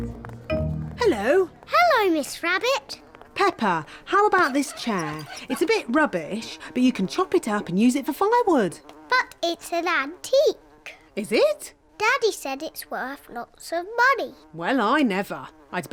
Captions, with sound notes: -Hello! -Hello, Miss Rabbit. -(FLIES BUZZING) -Peppa, how about this chair? It's a bit rubbish, but you can chop it up and use it for firewood. -But it's an antique. -Is it? Daddy said it's worth lots of money. Well, I never.